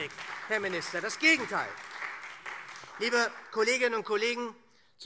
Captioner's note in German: Beifall SPD